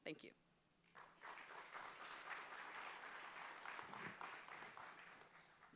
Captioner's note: applause